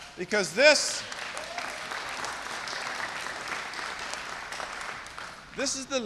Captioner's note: applause